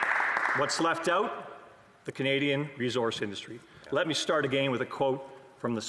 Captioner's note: some Applause